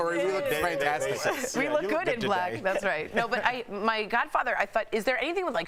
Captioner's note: laughter